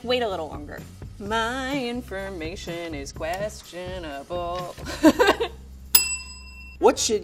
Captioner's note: laughing; bell rings